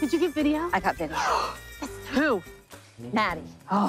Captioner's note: gasps; grumbles